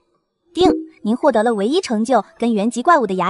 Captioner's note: ding!